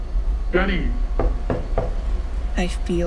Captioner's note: door knocking